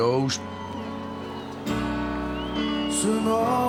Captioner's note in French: cris et applaudissements